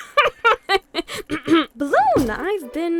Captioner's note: cabby laughs again; clears throat